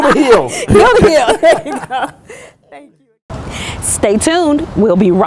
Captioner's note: laughter